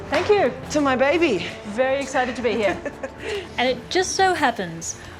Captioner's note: laughs